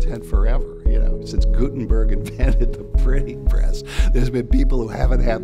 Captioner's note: laughs